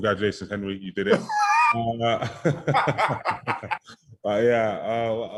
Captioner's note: both laughing